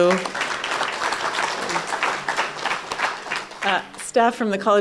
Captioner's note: applause